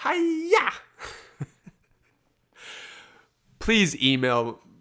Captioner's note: laughs